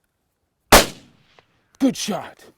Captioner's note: gunshot